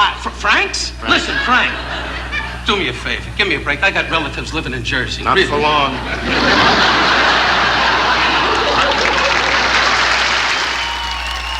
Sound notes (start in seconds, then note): 5.3 audience laughing; 8.2 audience applauding